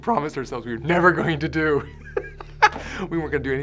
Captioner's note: laughing